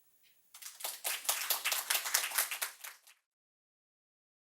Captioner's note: group applauds